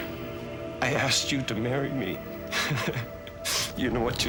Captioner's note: laughs